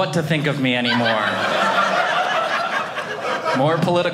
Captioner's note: audience laughing